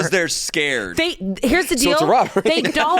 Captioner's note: laughs